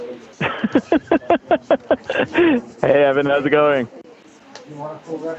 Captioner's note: laughs